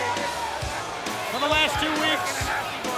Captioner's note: people chattering indistinctly